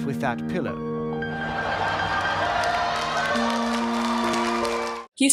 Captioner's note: audience shock and applause